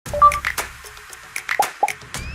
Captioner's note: dots beeping; percussive music; icon popping